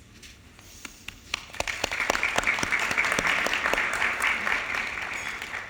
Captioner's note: audience applauding